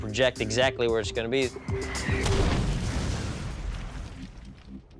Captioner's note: explodes loudly